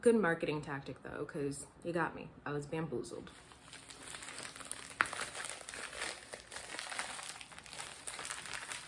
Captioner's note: opening package